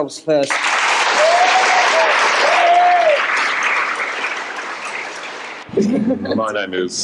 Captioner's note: cheers and applause